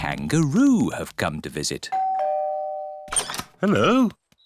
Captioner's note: doorbell rings